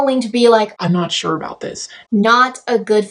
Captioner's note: low-pitched voice